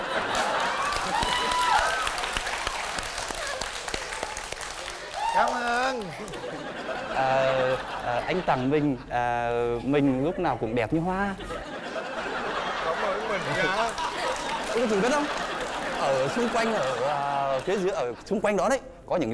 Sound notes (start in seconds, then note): 5.8 laughing